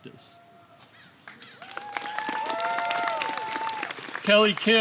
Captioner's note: applause